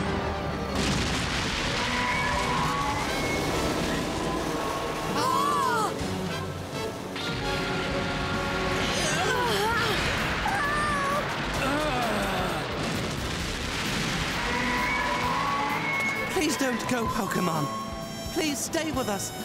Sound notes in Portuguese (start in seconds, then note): 1.7 rugindo; 5.2 ambos gritando; 8.7 grunhindo; 11.6 grunhindo; 14.1 rugindo